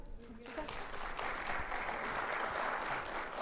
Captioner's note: audience applauding